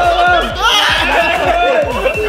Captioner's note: laughs; Pat; screams